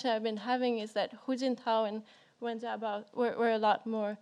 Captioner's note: speaks in foreign language